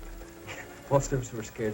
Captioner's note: laughs